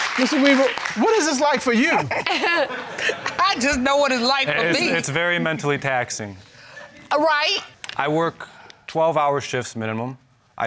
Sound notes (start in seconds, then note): 2.0 laughs